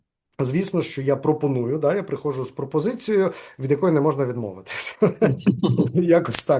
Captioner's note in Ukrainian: сміється